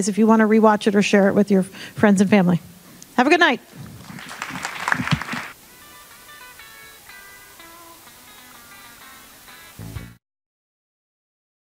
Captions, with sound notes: if you wanna re-watch it or share it with your friends and family. Have a good night. (audience applauding) (upbeat music)